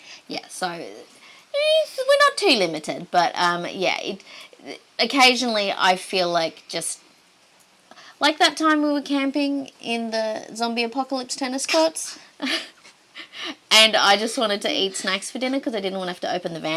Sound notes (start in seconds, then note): 12.4 chuckling